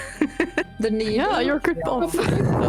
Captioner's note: laughing